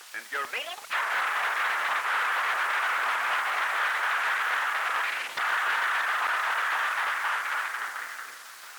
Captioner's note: applause